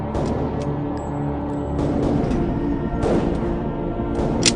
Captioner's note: muffled gun firing